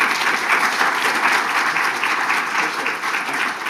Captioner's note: audience applauding